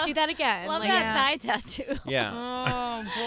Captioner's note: laughs